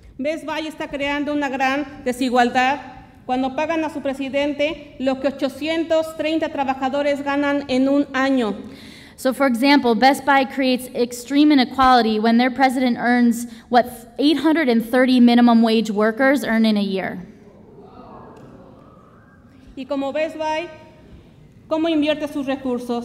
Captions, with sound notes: - (speaks Spanish) - So, for example Best Buy creates extreme inequality when their president earns what 830 minimum wage workers earn in a year. (audience woahs and whistles) - (speaks Spanish)